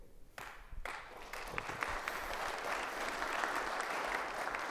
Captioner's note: audience applauds